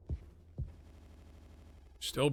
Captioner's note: audio stutters